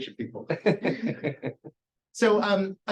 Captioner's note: chuckles